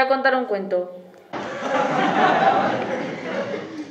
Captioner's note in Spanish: risas